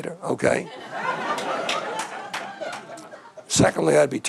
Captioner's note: audience laughing